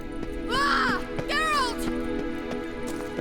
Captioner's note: cries out